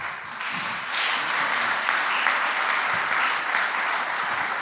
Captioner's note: applause